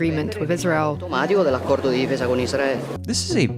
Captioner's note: Giorgia speaks in Italian